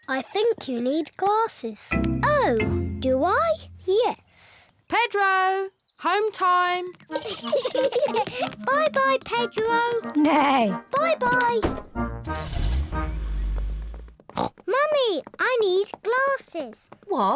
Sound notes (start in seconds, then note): 7.1 kids laugh; 10.8 neighs; 14.3 snorts